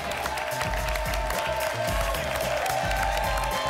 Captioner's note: applause and cheering